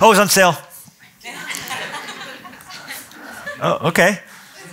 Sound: laughter

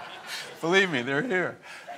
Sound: and audience laughs

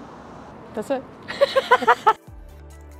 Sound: laughs

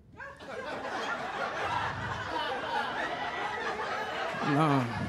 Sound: laughter

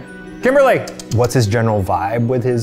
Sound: tsks

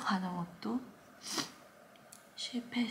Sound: sniff

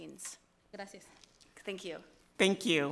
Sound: speaks foreign language

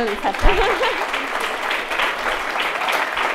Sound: applause

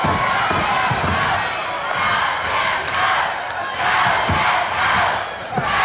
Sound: crowd chanting "go, Jeff, go"

